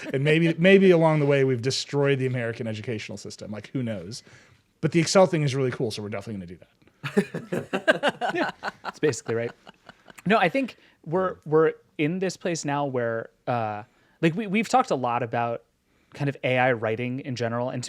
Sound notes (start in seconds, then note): 7.0 group laugh